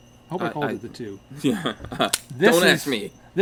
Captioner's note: chuckling